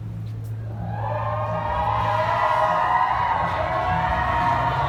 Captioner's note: audience cheering